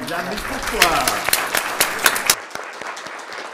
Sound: applause

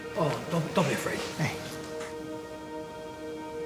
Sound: sniffles

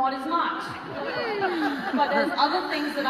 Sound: audience laughter

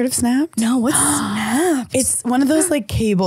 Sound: gasping

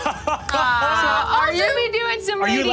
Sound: laughing

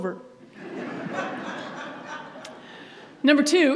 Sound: audience laughs

